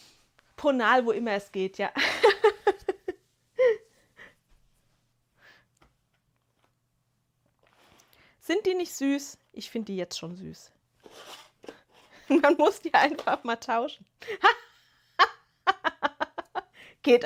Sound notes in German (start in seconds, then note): 2.0 gelächter; 14.3 gelächter